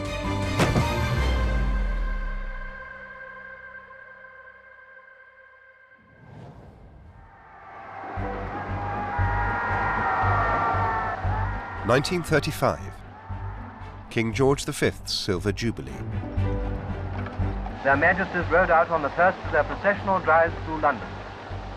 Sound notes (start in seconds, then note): 7.3 cheering; 9.5 upbeat music